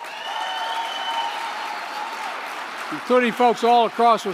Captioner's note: applause